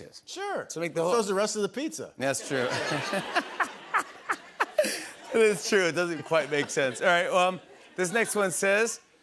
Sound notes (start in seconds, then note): 2.4 laughter